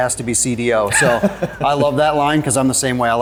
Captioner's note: laughs